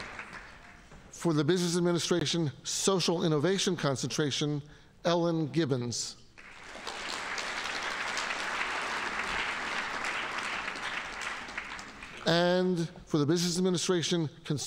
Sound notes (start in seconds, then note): 6.4 audience applauding